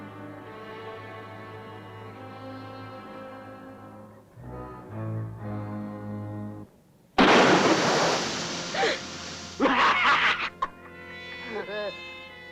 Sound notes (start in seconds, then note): 0.0 suspenseful music; 7.2 gunshot - air leak; 9.6 laugh